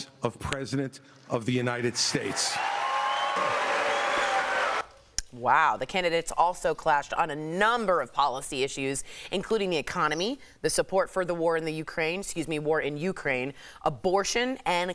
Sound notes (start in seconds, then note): 5.7 applause